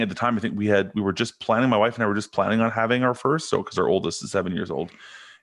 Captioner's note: none